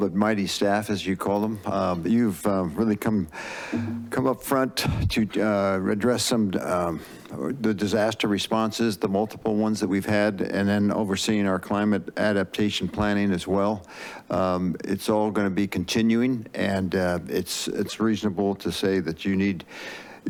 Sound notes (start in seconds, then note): 3.3 inhales; 19.7 inhales